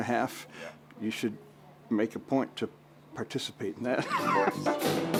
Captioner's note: laughs; relaxing music